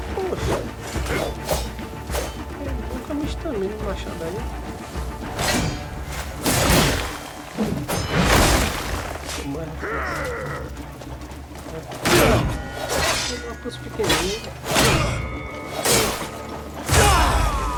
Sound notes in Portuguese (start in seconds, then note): 9.7 gemido; 16.9 grito